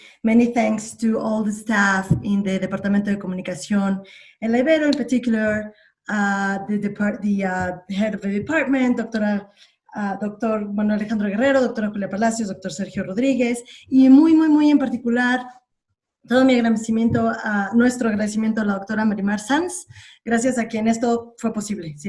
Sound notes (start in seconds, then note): 13.2 speaks in Spanish